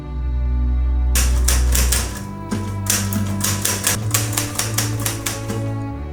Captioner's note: typewriting